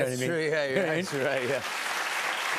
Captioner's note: applause